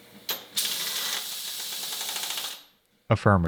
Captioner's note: machine clicks and whirs